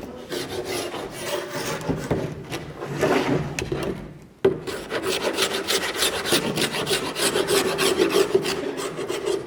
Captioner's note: lightly scraping wood